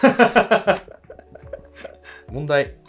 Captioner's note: laughing